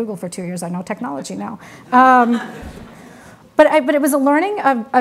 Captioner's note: audience laughs